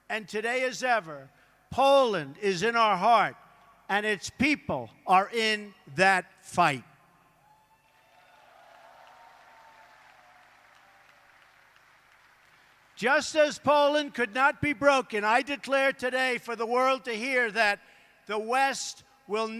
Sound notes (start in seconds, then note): 9.8 applause